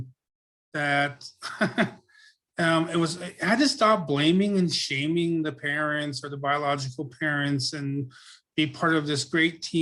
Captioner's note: laughs